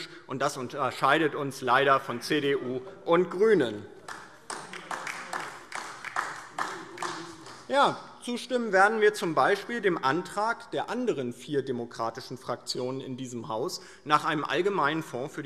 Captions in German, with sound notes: Das unterscheidet uns leider von CDU und GRÜNEN. [Beifall DIE LINKE] Zustimmen werden wir z. B. dem Antrag der anderen vier demokratischen Fraktionen in diesem Haus nach einem allgemeinen Fonds